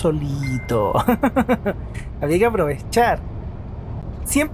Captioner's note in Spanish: risas